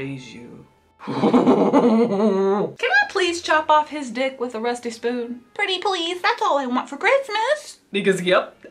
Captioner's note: growls